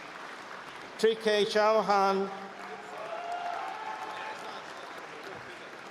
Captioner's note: cheering